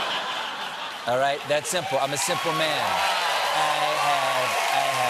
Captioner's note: laughter